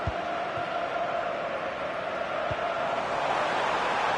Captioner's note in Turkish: coşkulu tezahürat